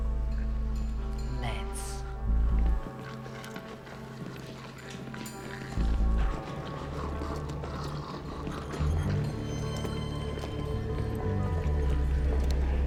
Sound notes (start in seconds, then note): 2.7 zombie growling